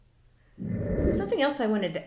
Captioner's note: air whooshing